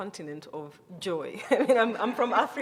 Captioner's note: chuckles